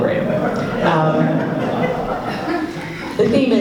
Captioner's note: laughs